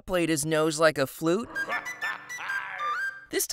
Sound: whistling

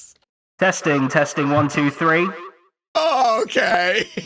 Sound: microphone voice

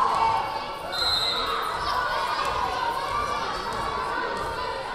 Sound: whistle blaring

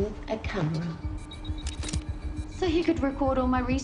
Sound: camera aperture clicks

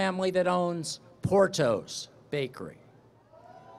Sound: cheering

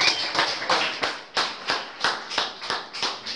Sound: applause

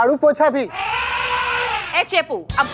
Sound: elephant trumpets

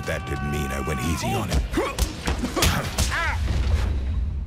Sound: grunts and thuds

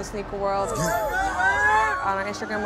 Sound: crowd shouting

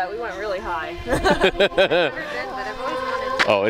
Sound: laughing

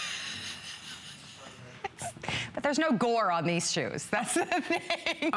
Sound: laughter

